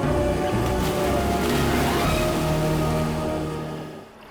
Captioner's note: soft dramatic music continues; water splashes